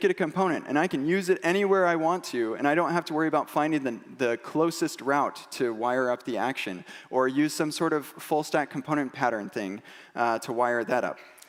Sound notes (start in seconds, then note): none